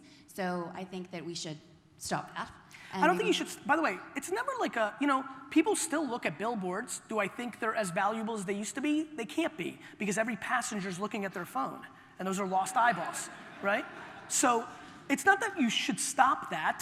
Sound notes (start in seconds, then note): 12.7 audience laughter